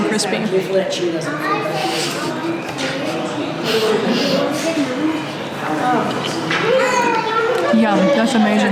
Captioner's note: inaudible delicious eating noises